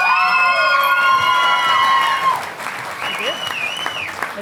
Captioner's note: audience applauding